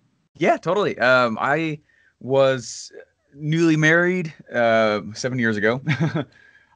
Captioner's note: laughs